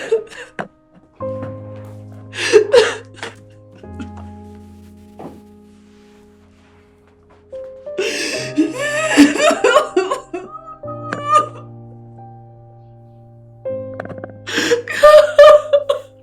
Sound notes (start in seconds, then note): 7.8 crying; 14.5 crying